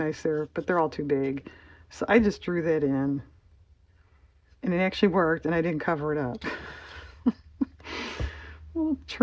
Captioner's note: laughs